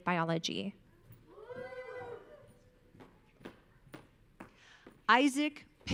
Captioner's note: audience cheering